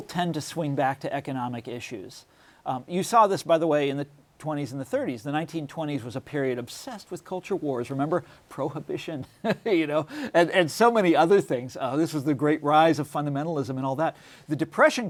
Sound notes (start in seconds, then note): 9.6 laughs